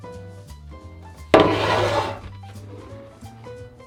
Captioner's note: pan sliding